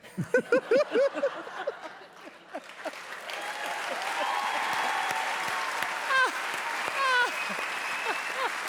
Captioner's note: audience applause